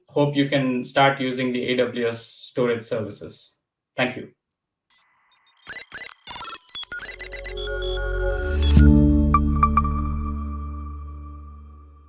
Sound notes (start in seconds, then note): 5.0 machine beeping; 6.7 gentle futuristic music